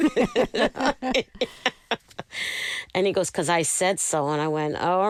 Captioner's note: laughter